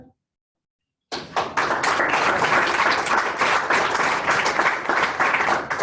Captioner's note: applause